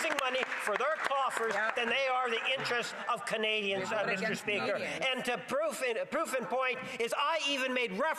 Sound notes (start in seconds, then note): 2.7 some Applause